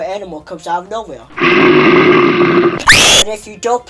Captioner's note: growls; scream